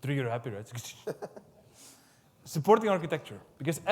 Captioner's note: laughs